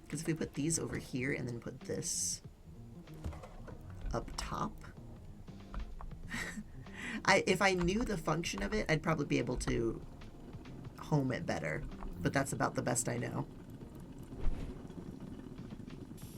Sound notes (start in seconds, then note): 6.2 laughs